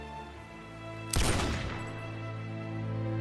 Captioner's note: gunshot